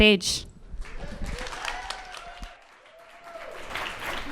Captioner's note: cheers and applause from audience